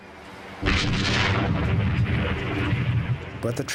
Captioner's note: cannon firing